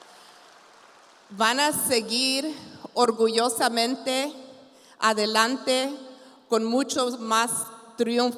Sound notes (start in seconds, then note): 1.5 continues speaking in Spanish